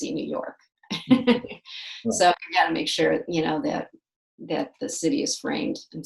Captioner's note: laughs